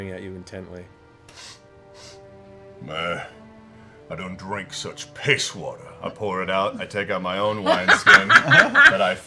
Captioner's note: sniff, sniff